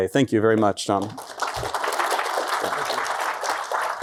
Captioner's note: applause